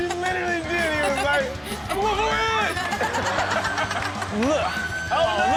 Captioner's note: audience laughs; laughs